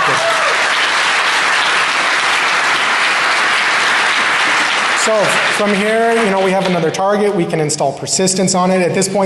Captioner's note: applause